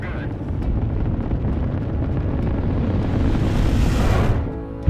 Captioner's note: rocket engine roaring; inspirational music; whooshing